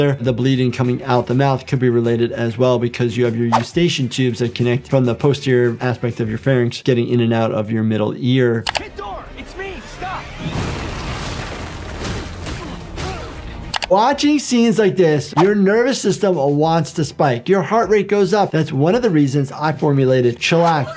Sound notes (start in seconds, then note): 8.6 screen clicking; 9.2 ground blasting; 12.0 fists pounding